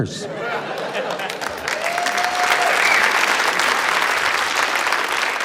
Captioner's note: cheering, applause